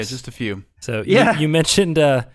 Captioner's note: laughing